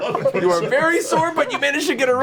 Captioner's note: all laugh